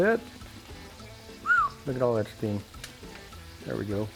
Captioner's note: whistles